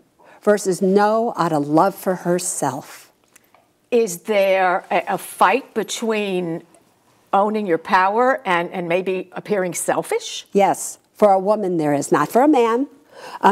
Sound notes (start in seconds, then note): none